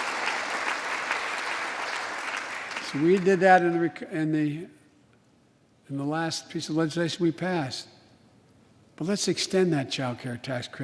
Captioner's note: applause